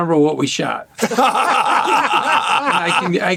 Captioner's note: laughter